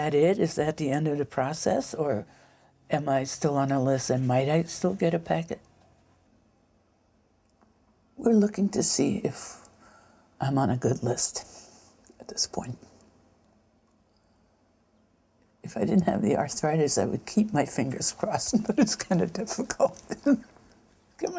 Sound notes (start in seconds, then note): 19.8 chuckles